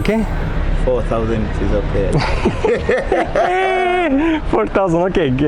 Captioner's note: both men laughing